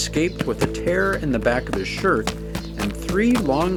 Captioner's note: footsteps clopping